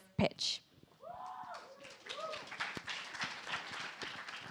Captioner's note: cheers, applause